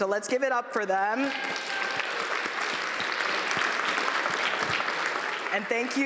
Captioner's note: applause